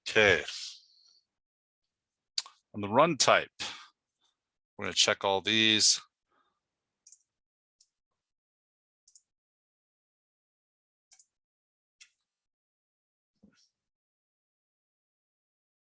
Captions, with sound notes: Okay. On the Run Type, we're gonna check all these. (mouse clicking)